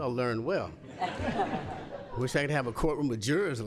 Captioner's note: laughter